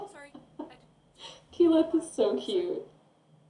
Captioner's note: laughter